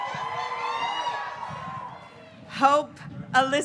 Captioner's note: graduates cheering